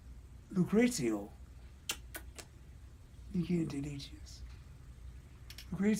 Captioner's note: kisses